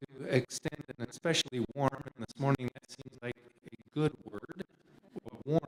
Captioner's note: none